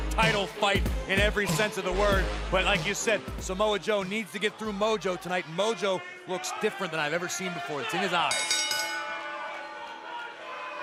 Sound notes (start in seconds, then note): 8.2 bell